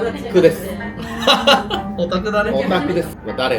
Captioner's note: laughs